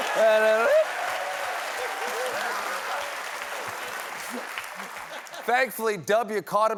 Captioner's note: laughter